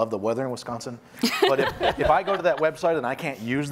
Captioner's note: woman laughing